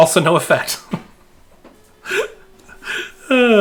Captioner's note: laughing